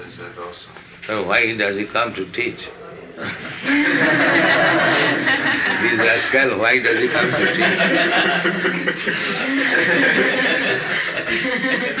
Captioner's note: laughter